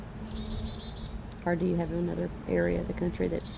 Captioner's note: birds chirping